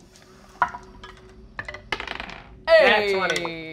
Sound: several dice rolling

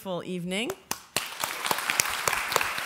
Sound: applauding

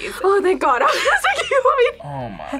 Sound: laughs

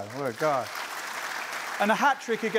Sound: applause

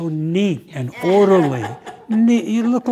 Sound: laughter

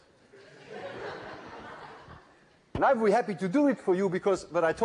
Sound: laughter

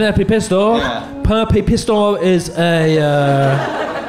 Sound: slurring

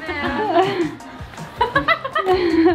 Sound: laughs

